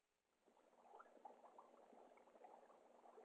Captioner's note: liquid bubbling